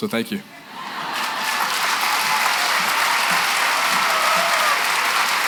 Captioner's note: applause